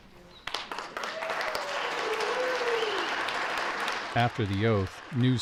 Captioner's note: clapping ad cheering